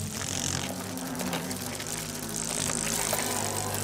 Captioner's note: hornets buzzing